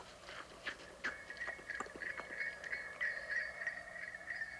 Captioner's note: sleigh bells approaching